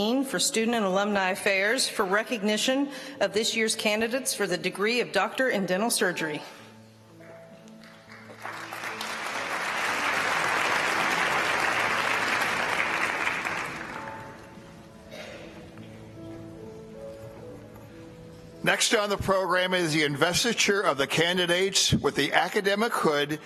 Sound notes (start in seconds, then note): 12.1 applause